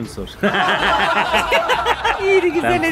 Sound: laughter

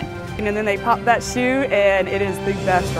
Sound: woman's Voice

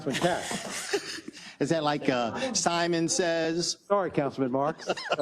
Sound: laugh

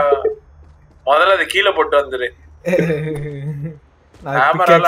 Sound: chuckles awkwardly

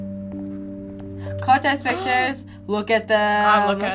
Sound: gasps

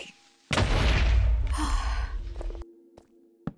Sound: sigh

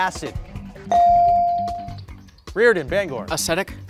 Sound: bell ringing

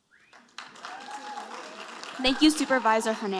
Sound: audience applauding

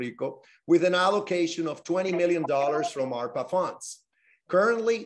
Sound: spanish

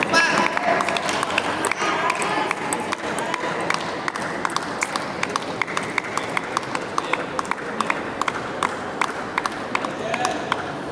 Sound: applause

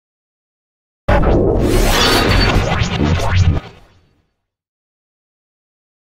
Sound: sound of morphing

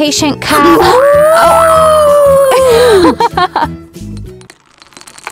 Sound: laughing

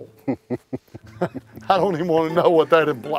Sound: chuckling

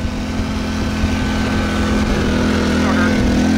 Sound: motor humming

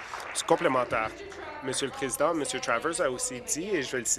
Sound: applause

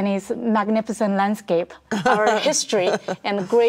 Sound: laughs

